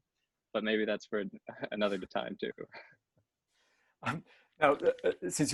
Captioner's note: chuckles